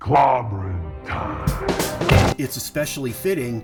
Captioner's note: smacks fist